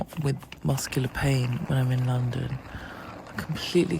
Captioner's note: walking sound